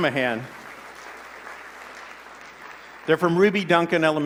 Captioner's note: applause